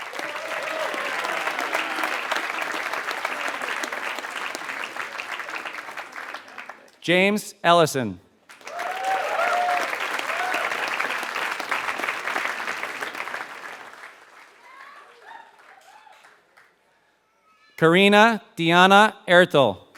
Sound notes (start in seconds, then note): 0.0 applause